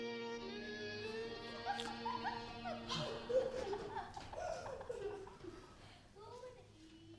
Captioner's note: people laughing